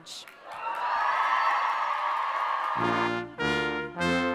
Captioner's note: audience cheering; brass band music